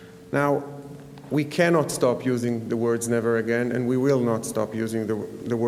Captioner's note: none